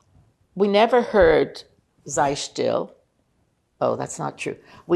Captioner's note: yiddish